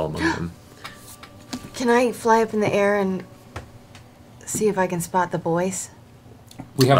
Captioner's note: gasps